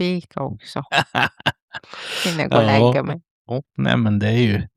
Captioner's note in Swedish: skratt